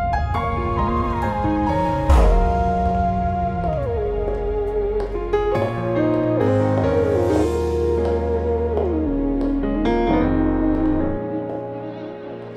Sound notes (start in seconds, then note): 3.6 heel steps